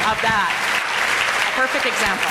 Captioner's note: audience applauding